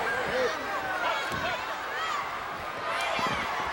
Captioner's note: fans shouting